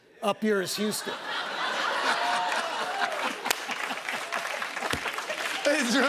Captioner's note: laughter and applause